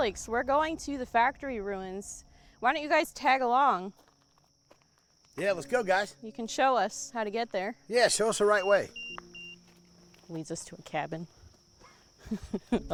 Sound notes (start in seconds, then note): 8.4 EMF beeping